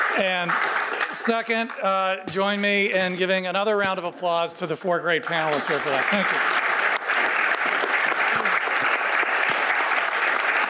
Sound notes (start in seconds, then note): 7.6 audience applauding